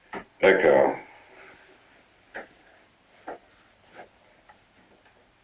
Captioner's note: speaking in foreign language